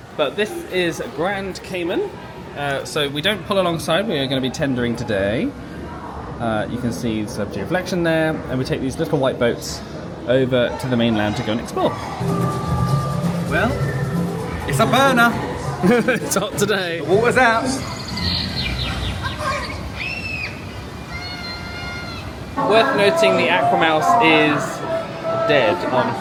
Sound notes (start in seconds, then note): 12.2 exciting music; 16.3 laughs